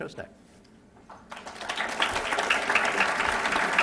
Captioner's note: applause